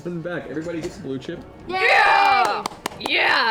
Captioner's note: cheering